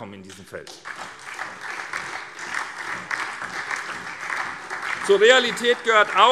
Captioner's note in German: Beifall SPD und DIE LINKE